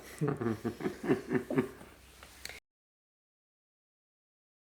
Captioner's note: members chuckle